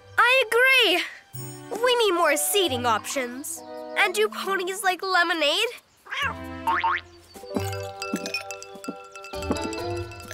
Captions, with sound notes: - I agree. We need more seating options and do ponies like lemonade? (Cat meows) (ice tinkles)